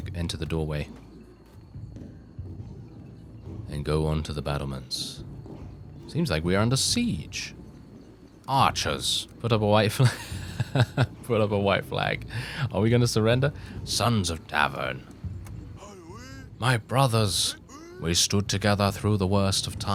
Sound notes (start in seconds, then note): 10.0 laughs